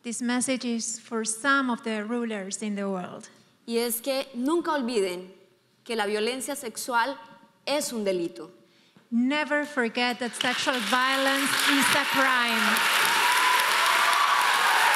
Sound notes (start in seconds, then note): 0.0 speaking in foreign language; 3.8 speaking in foreign language; 10.3 audience applauding